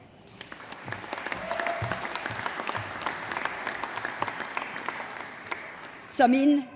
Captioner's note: applause